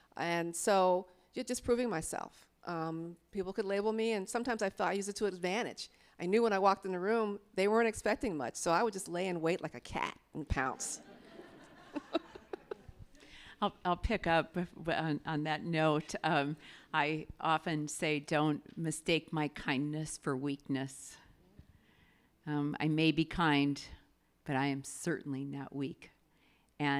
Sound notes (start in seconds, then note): 10.7 audience laughing; 10.8 laughs